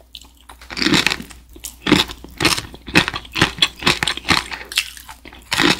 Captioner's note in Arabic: ضاعف القرمشة بين المضغ